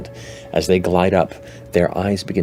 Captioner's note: none